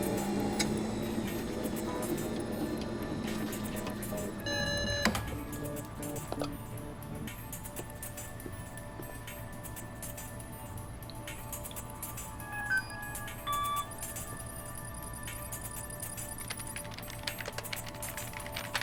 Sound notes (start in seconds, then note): 4.2 electronic beeping; 12.4 keypad beeps